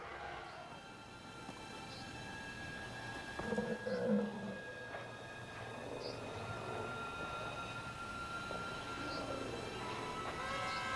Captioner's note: growling